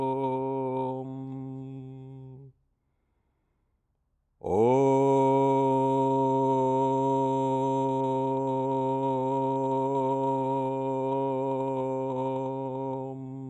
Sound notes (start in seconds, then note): 0.7 chanting; 7.8 chanting